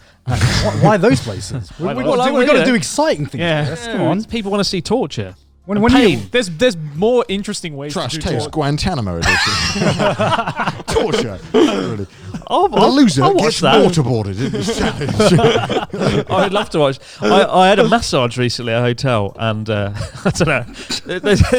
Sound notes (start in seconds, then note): 0.4 laughs; 9.9 all laughing; 14.8 all laughing; 21.3 all laughing